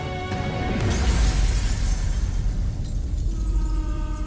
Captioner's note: explosion; dissonant music